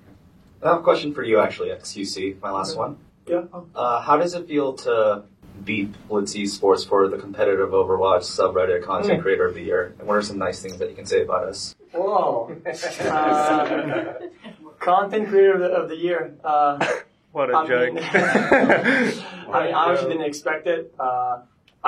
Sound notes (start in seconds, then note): 17.3 impersonating xQc; 17.9 laughter